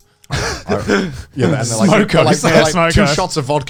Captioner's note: laughs